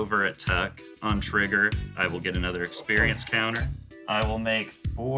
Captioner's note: groans